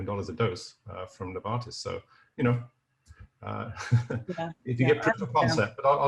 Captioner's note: chuckles